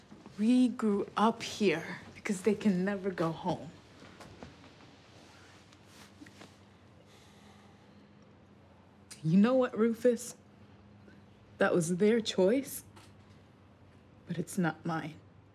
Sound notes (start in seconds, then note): none